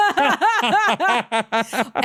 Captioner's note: both laughing